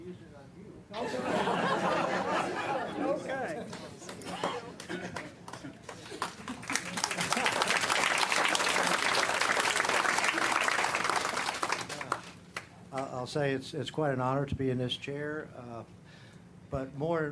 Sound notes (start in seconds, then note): 0.9 laughter; 3.6 clapping